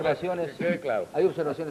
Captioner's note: laughs